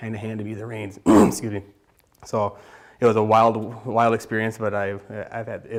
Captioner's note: clears throat